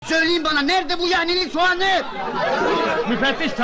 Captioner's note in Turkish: kahkaha